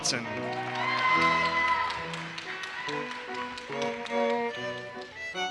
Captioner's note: audience cheers and applauses